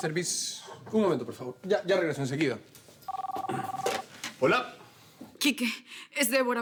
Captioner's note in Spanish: Suena el celular